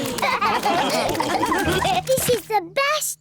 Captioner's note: all laugh